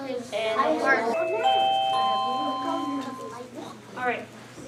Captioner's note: bell rings